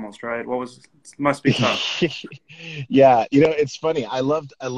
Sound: laughs

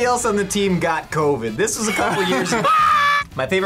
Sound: both laugh

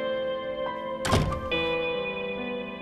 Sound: door closing

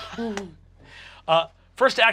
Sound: chuckles

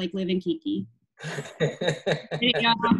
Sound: laughing

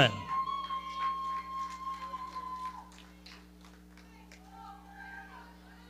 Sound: audience cheering

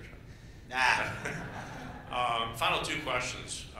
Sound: laughter

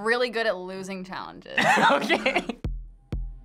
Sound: laughs

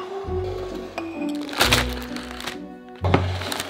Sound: packaging crumpling

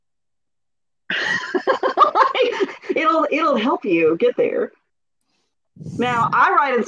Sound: laughs

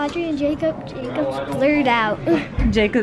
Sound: chuckles

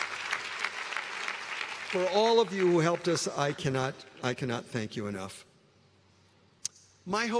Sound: applause

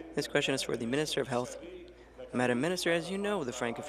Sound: speaking in French

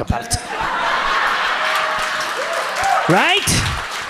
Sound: audience laughs

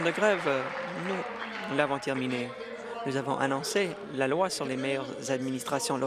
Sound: applause

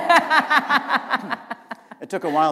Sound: laughter

